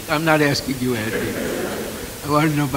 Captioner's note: laughter